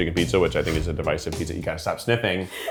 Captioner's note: speaking faintly